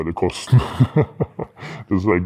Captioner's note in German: Lachen